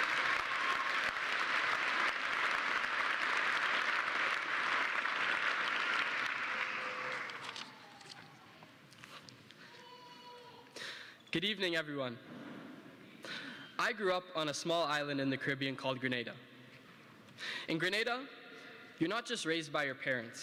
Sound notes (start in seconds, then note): 2.0 applause